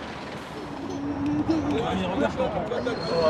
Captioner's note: chattering